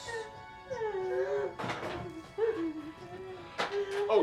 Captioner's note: Sally crying